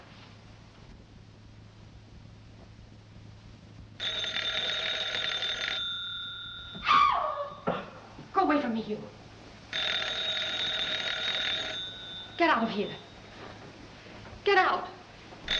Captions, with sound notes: [telephone ringing] [screams] Go away from me, you! [telephone ringing] 'Get out of here!' Get out!